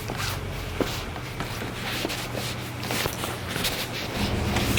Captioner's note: sound of footsteps on wooden deck